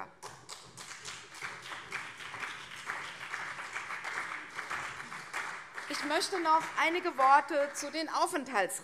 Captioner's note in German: Beifall CDU und vereinzelt SPD